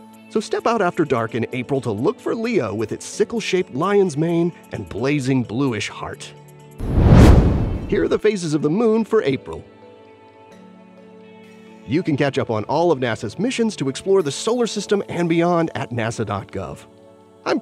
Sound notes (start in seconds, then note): 6.8 whoosh; 10.6 gentle music